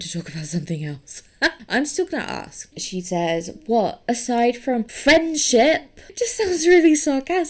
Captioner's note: laughs